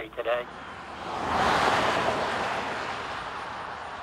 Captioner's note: road noise